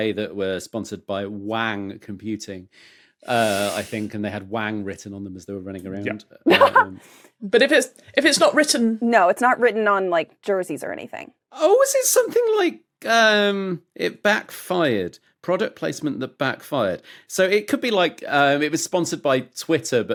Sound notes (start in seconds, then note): 6.5 blurts laugh